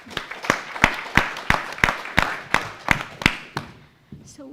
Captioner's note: audience applauds